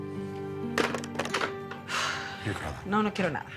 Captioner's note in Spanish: Sonido al colgar